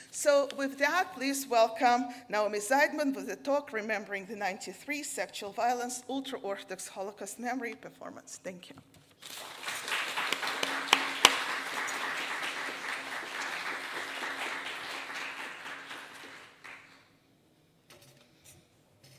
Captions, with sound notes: So with that, please welcome Naomi Seidman with the talk, "Remembering the 93 Sexual Violence, "Ultra-Orthodox Holocaust Memory, Performance." Thank You. (audience applauding)